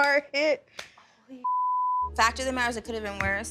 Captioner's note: beep